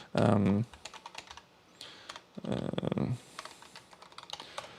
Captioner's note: keyboard clicking